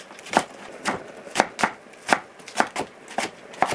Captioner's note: chopping in rhythm